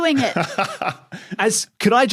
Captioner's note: laughs